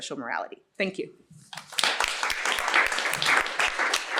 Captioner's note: applause